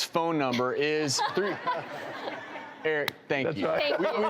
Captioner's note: laughing